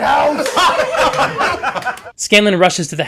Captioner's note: laughter